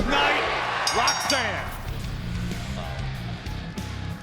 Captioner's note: bell ringing; graphics whooshing; crowd cheering; upbeat music